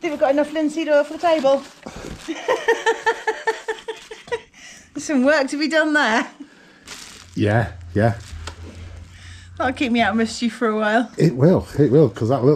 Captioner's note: laughter